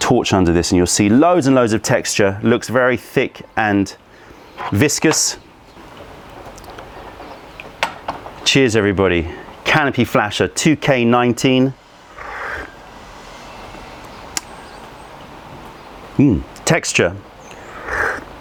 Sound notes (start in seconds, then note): 5.6 pouring tea; 11.8 sips tea